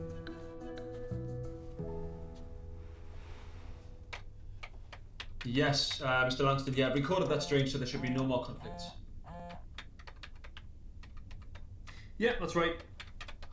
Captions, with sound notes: (gentle orchestral music continues) (keys clacking) Yes, Mr. Langston, yes, I've re-coded that string, so there should be no more conflicts. (phone buzzing) Yeah, that's right.